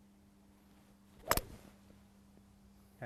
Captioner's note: club thwacks